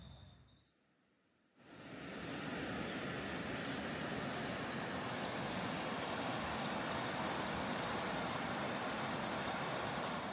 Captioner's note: waterfall